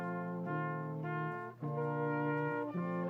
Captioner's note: none